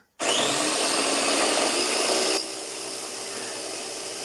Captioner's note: blender whirling